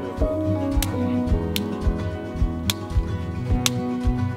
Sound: branches snap

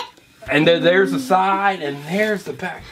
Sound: voiceover

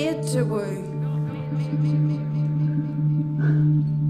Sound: "Not made to woo" echoed in a female voice

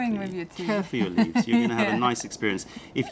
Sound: laughter

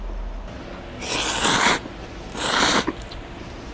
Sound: slurping noodles

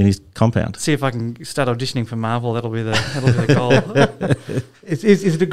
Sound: laughter

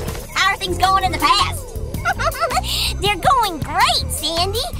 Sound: giggling

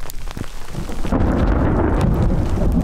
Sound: thunder

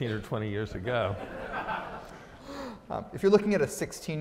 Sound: audience laughs

